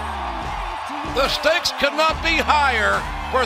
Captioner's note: cheers and applause